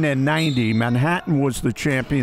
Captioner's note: referee blows whistle